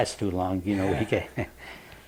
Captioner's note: laughs